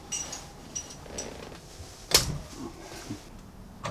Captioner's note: tools rattling